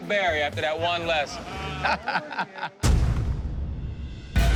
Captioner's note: laughter